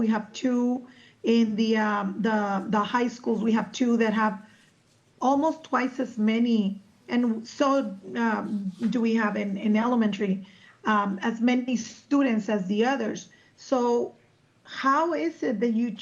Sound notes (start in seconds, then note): none